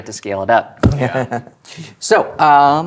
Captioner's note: players laughing